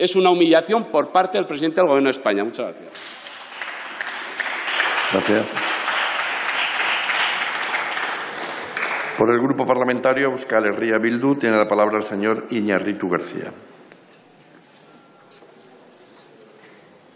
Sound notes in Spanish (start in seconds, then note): 2.9 Aplausos